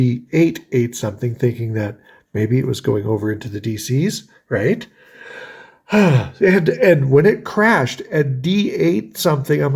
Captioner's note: sighs